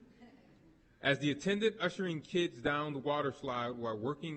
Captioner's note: chuckling